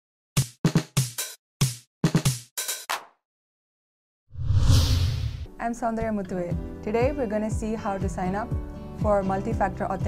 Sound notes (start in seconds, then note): 4.3 woosh